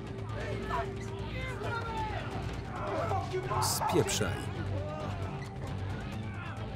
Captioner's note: residents shouting